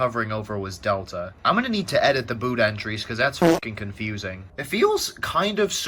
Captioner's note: fart